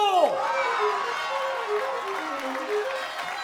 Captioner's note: cheering and applauding